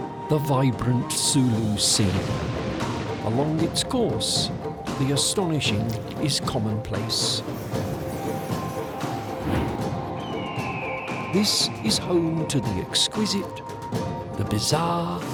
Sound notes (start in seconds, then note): 10.0 birds squawk